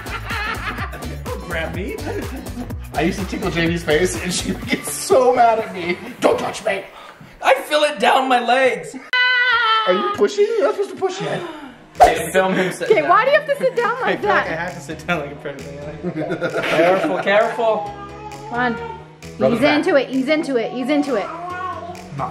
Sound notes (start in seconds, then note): 0.1 laughs; 9.2 screams; 16.1 laughs